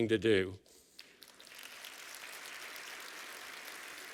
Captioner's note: applause